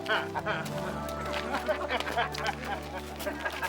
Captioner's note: laughing